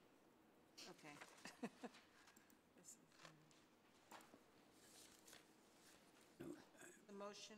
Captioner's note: chuckles